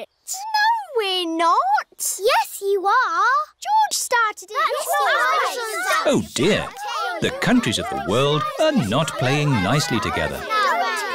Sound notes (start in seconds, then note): 4.8 all arguing